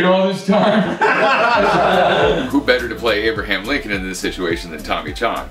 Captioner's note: laughter